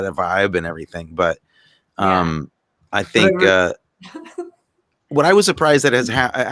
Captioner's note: laughs